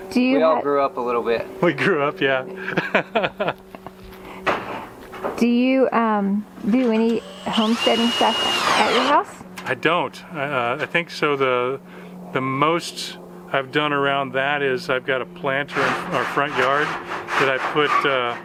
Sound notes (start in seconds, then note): 6.8 sound of drill in background